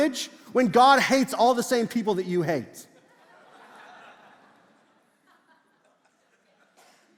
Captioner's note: congregation laughs